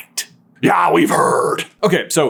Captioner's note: aggressive Scottish accent